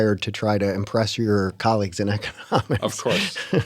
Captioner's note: laughter